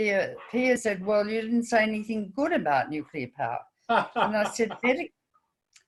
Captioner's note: hah hah